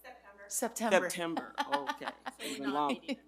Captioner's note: laughs